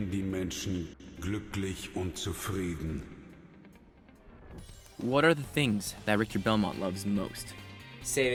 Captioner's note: more German